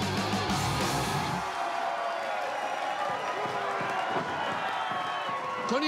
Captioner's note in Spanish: aplausos y exclamaciones